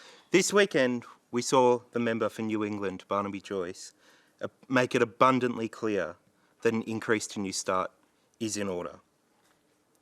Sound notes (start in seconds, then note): none